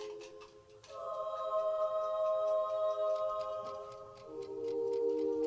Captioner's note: ticking